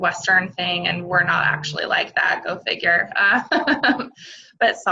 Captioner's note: laughs